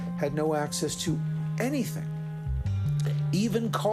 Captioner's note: none